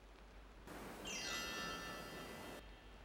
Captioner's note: chimes ring